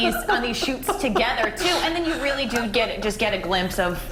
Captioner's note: laughter